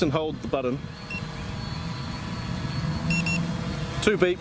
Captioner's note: controller beeping